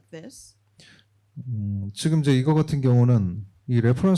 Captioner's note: speaking korean